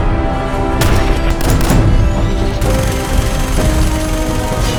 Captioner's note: guns firing